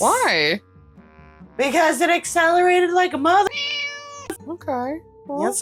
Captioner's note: meow